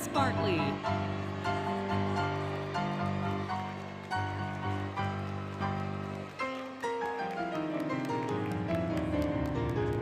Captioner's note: applause, Cheering, Music; music, Applause